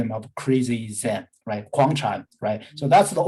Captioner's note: speaking in Mandarin